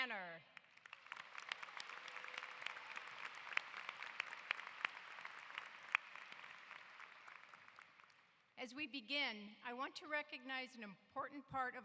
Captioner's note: applause